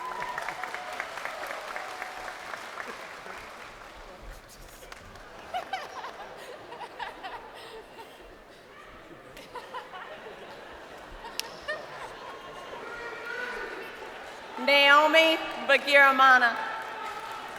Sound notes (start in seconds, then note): 2.5 crowd applauding; 7.8 laughing